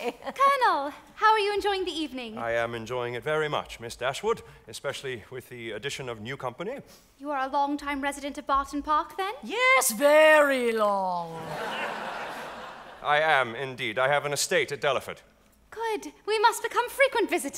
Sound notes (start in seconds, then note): 11.0 audience applauding